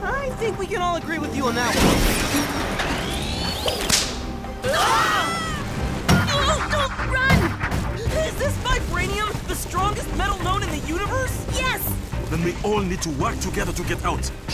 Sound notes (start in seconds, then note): 4.6 screaming